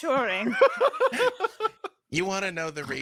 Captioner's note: laughs